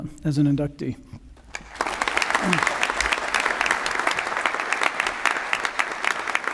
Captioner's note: applause